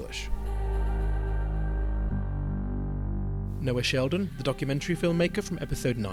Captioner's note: voiceover